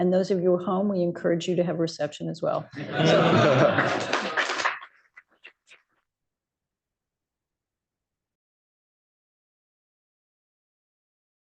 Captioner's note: laughter, applause